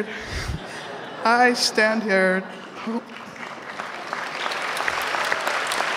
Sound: audience laughs; audience applauds

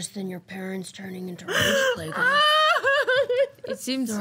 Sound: mock crying

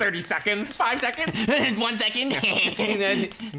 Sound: snickering

